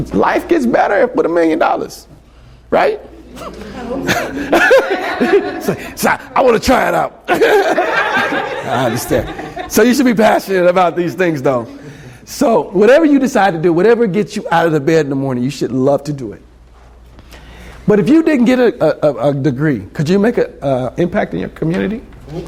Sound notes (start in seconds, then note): 3.2 laughter; 8.2 laughs